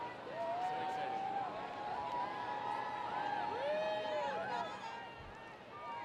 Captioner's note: students cheering and screaming